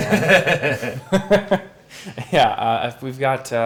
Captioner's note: laughing